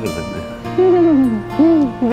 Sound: laughing

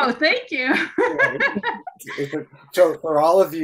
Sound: laughing

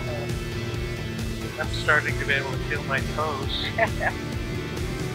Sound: laughs

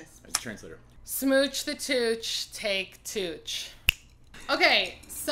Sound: snap

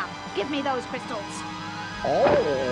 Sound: groans

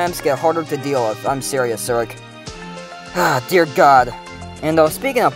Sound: sigh

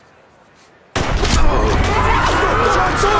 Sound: gunshot

